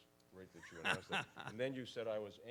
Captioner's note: laughs